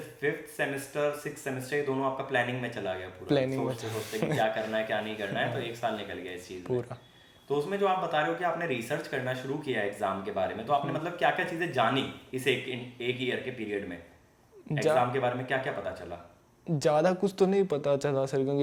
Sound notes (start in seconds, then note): 3.9 laughs